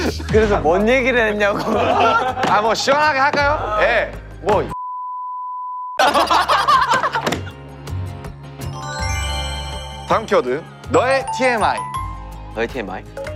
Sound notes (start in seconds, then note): 6.0 hahaha